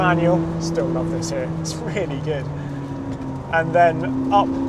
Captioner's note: chuckles